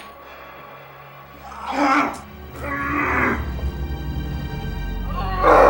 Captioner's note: grunting